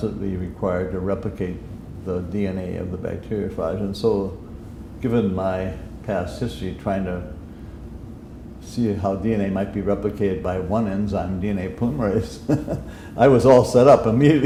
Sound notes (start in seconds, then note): 12.4 chuckle